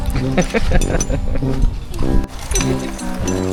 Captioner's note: laugh